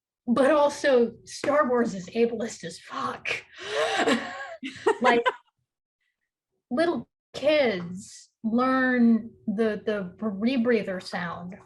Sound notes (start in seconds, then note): 3.7 laughs; 3.9 chuckles